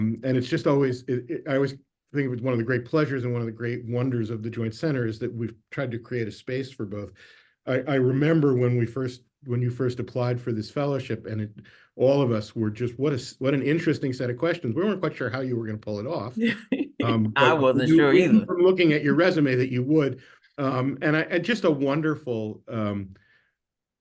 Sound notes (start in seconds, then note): 16.4 laughs